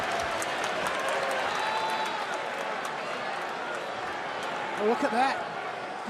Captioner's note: crowd cheering